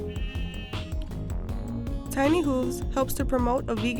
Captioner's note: goats bleating